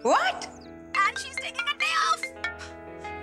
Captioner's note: Rohit's phone ringing